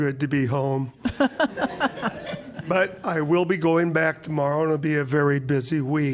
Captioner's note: laughter